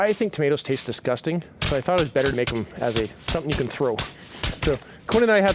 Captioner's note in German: hohe knallgeräusche